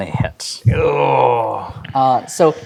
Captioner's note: groans